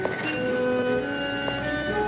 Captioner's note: gentle apprehensive music; car horn honking